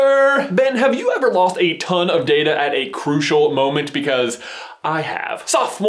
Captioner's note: inhales